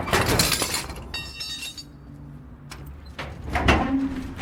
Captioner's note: metal clanging